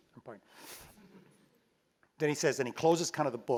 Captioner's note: laugh